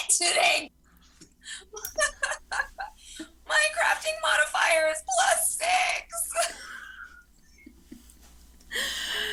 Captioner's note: laughs